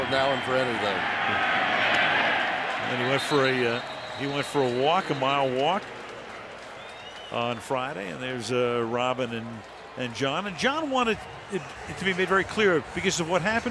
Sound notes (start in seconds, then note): 6.5 pa announcement